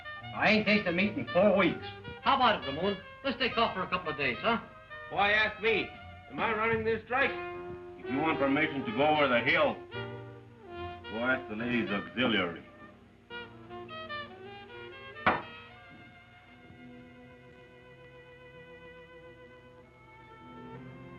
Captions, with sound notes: I ain't tasted meat in four weeks. - How about it, Ramon? Let's take off for a couple of days, huh? - Why ask me? Am I running this strike? If you want permission to go over the hill, go ask the Ladies' Auxiliary. (glass thuds) (melancholic music)